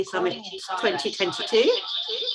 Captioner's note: feedback